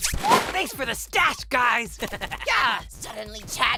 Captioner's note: fanny chuckles